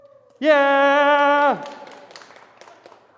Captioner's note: applause